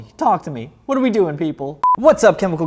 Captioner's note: beeps